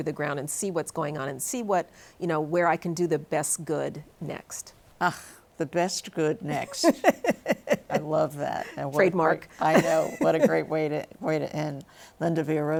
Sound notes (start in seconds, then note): 8.6 laughs